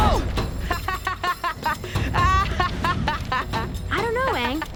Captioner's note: laughing